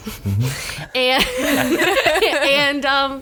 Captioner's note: group laughing